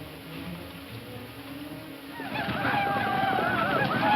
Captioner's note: shouting ecstatically; hooves thumping